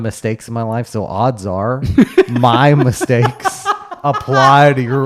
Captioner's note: laughing